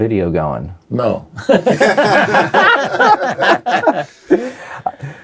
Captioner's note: laughs